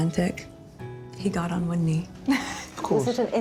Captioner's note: laughs